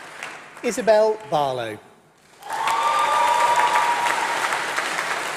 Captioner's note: applause